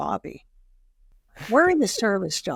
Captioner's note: laughing